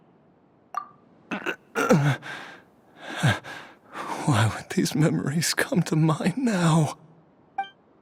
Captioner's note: groans